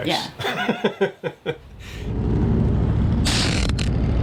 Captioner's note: laughing